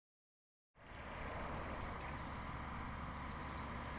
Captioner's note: wind blowing